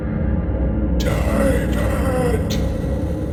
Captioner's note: ghostly Voice